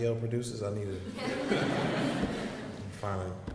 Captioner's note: audience laughs